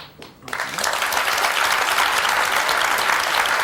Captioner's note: applause